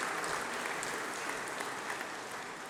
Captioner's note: applause